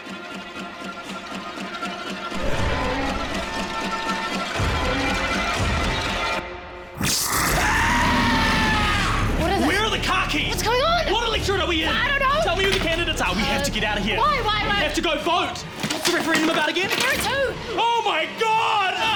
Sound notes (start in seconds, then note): 7.0 monster hissing; 7.0 screams